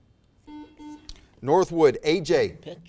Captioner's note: buzzer